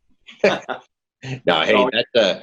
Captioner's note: laughing